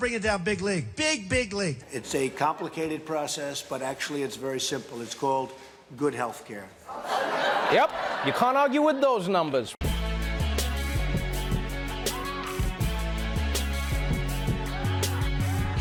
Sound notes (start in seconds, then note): 6.9 laughter